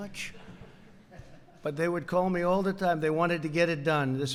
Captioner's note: laughter